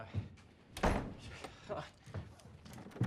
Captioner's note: door slams close